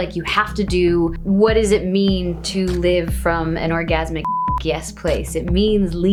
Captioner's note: beep